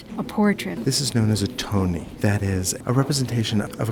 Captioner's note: voiceover